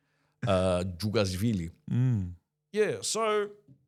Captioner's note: speaking In Foreign Language